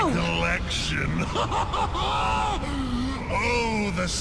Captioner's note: hysterical laughter